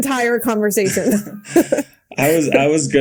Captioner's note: Bode and Mikaela laughing